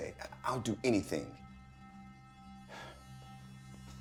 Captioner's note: sighs